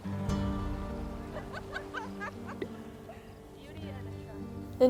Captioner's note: laughter